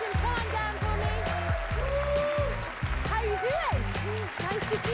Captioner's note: cheers and applause